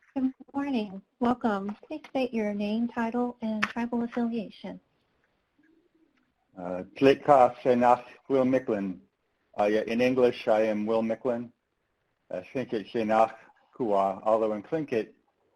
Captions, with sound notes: - Good morning, welcome. Please state your name, title and tribal affiliation. - (speaks foreign) Will Micklin. In English I am Will Micklin (speaks faintly).